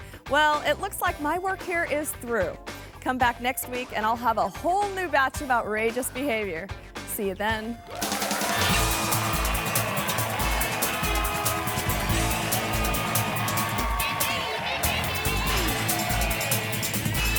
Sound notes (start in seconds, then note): 7.9 audience applauding; 8.3 upbeat pulsating music